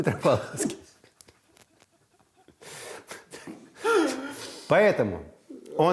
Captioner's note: both laugh